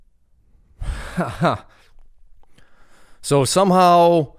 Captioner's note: laughs